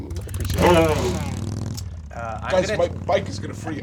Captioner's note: motorbike revving